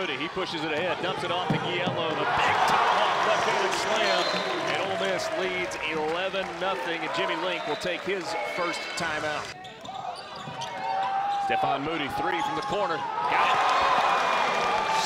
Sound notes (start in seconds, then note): 2.0 crowd drowns out commentator